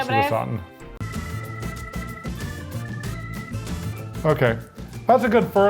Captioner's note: upbeat music; screen beeps